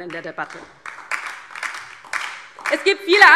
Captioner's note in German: Beifall DIE LINKE